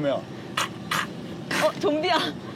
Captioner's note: grunting